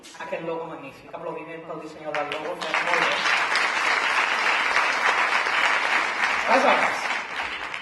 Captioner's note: applause for the logo designer